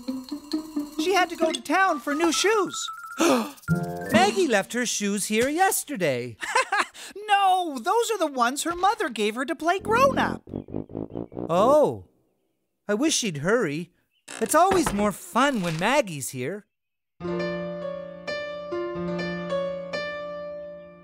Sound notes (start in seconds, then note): 3.2 gasp; 6.4 chuckle; 17.2 piano